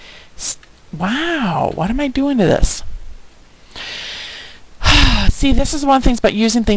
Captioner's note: sighing